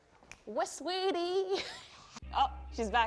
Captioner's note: snapping